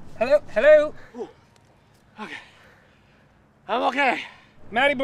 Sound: groaning

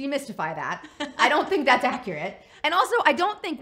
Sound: laughs

